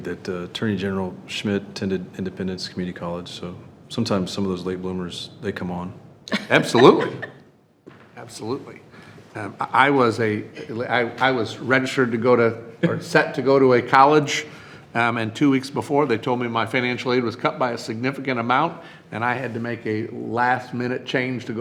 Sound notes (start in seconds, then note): 6.3 chuckles